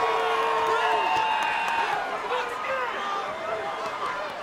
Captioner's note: crowd cheering